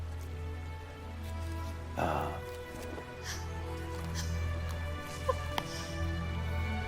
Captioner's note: Jackie chuckles